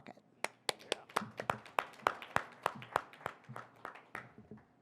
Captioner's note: audience applauding